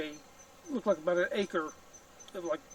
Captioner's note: none